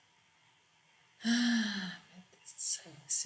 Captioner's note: sigh